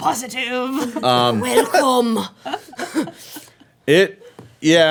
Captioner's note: laughing